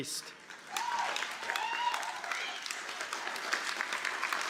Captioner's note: cheers and applause